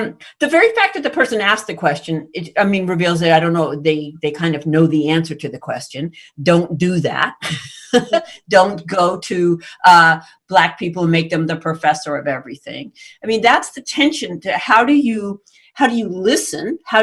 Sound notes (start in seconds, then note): 7.5 chuckles